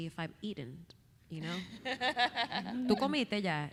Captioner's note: laughing; speaking Spanish